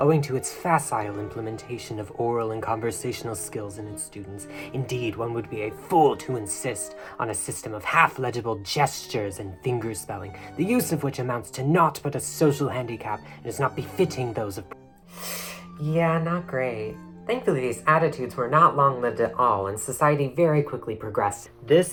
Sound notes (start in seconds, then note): 15.0 inhale